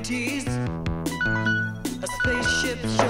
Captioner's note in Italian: Cellulare suona